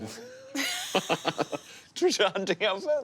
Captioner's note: laughing